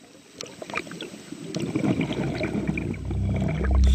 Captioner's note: water gurgling; soft music